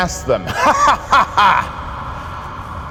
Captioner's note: laughing